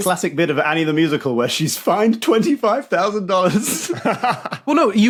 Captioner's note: laughs; holds back laugh